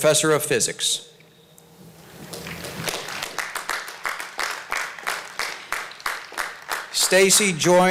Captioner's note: applause